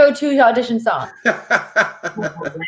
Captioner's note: laughs